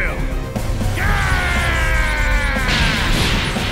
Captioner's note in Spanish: Gritos